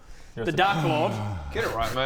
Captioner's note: siiiiiiiiiiiiiigh